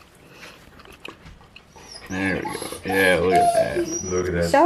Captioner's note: whines